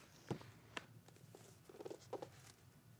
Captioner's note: none